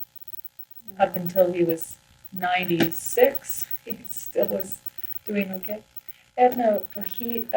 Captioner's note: laughs